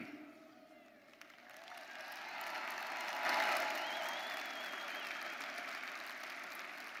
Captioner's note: audience cheering; audience applauding